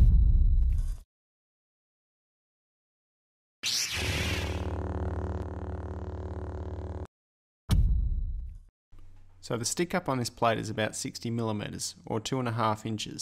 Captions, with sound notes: (Lightsaber noises) So the stick up on this plate is about 60 millimeters, or two and a half inches